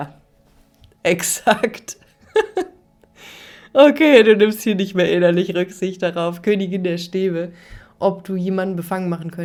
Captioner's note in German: gelächter